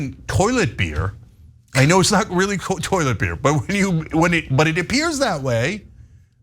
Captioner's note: laugh